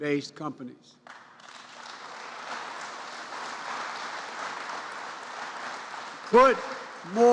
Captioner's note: applause